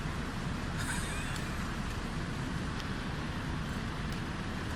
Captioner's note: driver laughs